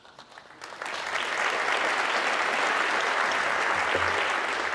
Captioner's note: audience clapping